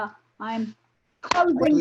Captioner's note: clapping